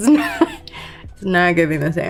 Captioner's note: Lori laughing